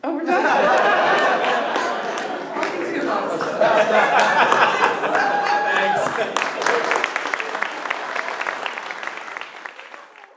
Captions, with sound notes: Oh, we're done! We're talking too long! (laughter) Thanks! (cheers)